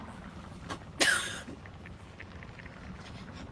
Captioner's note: muffled cough, strained breath